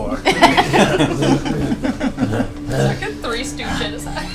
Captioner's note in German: Gelächter